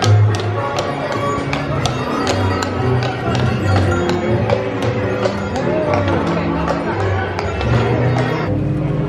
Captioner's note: horse hooves clopping